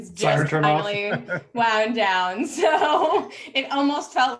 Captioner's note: laughs